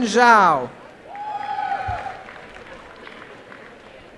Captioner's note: applause